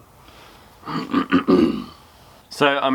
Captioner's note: throat clearing